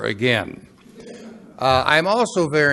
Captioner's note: laughing